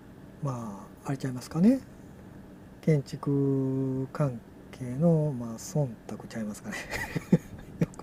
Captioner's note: laughs